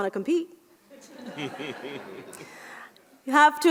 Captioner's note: audience laughs